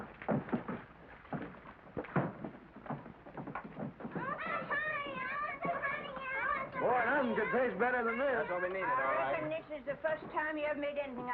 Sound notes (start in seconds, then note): 4.1 children clamoring